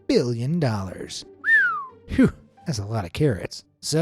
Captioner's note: whistles